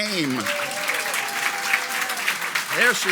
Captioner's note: audience applauds